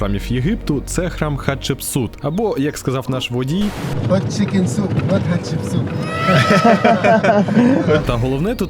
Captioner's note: laughter